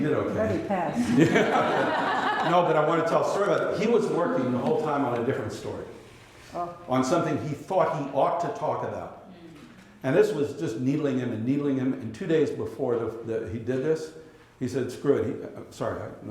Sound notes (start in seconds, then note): 0.9 laughter